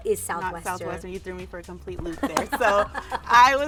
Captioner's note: laughing